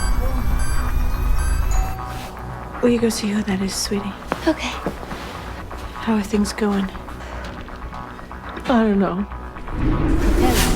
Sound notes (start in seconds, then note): 0.0 tense music plays; 2.1 doorbell rings